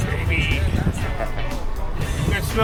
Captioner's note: rider chuckling